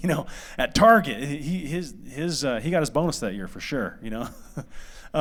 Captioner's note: laughter